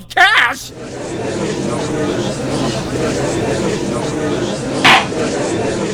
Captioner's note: gallery chattering; gavel slams!